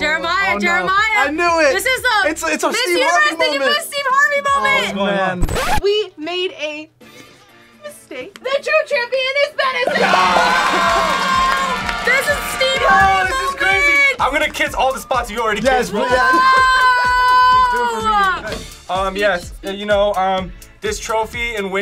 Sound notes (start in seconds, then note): 5.4 record scratches; 15.9 laughs